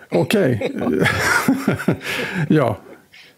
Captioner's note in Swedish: Skratt